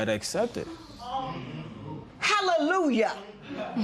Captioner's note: spectators murmur